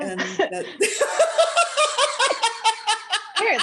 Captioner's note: laughter